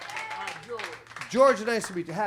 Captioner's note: audience applauds